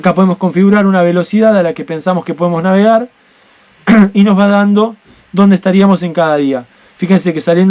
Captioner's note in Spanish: carraspeo